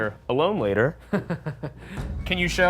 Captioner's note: Ryan chuckling